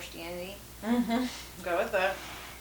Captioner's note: therapist laughs